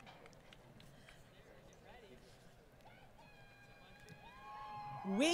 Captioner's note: crowd Cheering